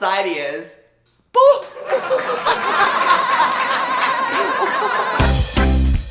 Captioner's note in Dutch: ingeblikt gelach; vrolijke reggae